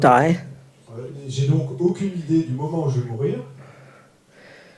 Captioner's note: French